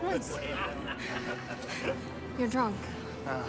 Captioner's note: men laughing